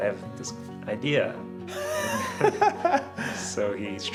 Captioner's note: laughing